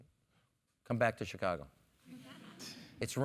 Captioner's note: laugh